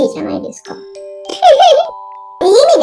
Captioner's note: laughs